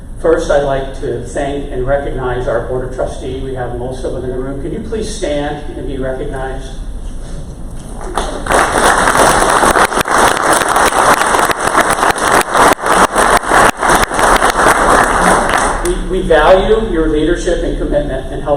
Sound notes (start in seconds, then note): 8.0 crowd applause